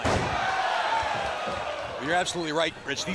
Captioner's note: crowd cheering